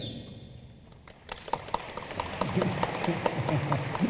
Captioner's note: room applauds